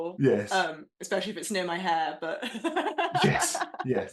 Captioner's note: laughs